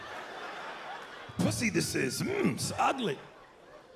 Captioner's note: imitates Yoda; regular voice